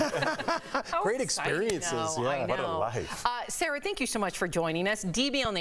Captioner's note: laughter